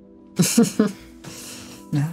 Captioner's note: laughs